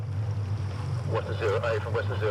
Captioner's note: boat engine revving